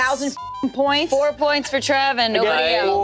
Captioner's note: beep